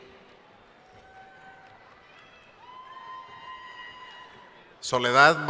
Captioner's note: cheering